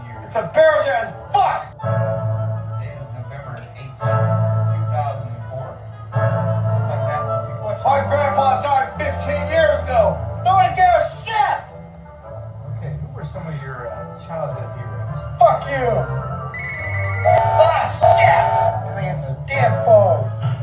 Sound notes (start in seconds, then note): 16.6 phone Ringing; 16.6 UP 4466's Star Brass 5-Chime Whistle